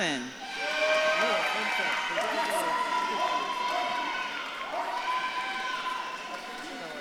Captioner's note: audience claps and cheers